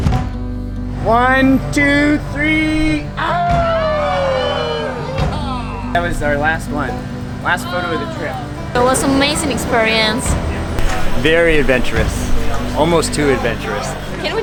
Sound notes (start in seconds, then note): 3.0 cheer